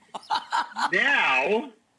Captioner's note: Rachael laughs